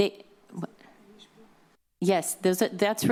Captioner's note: whispers